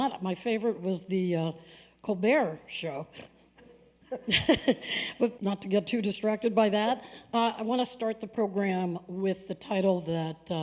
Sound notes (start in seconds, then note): 4.0 laughter